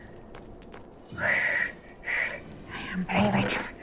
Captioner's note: deep breaths